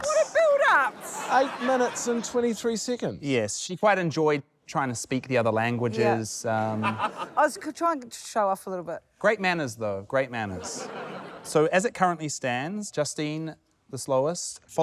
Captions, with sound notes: - What a build-up! - 8 minutes and 23 seconds? - Yes, she quite enjoyed trying to speak the other languages. - Yeah. I was trying to show off a little bit. - Great manners, though. Great manners. - (LAUGHTER) - So as it currently stands ― Justine the slowest,